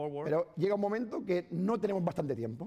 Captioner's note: speaking spanish